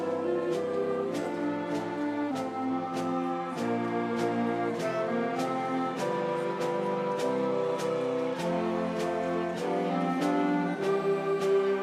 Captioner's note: applause